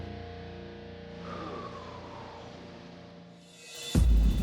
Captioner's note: exhales